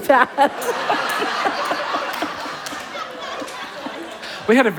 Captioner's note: laughter